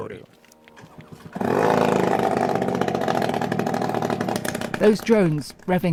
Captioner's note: drone revving